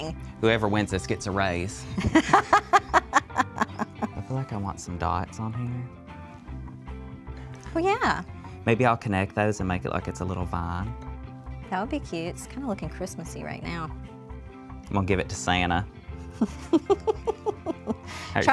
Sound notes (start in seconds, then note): 4.1 laughs